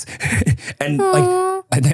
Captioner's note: person laughing